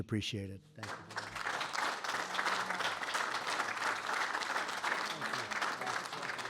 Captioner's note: applause